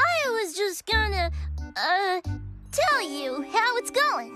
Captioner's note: none